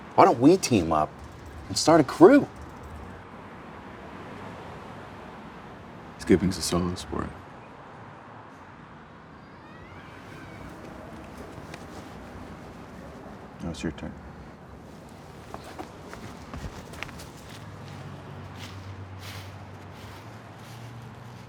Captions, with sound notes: Why don't we team up and start a crew? - Skipping's a solo sport. Now it's your turn. (footsteps pattering)